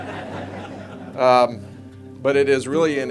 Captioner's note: audience laughing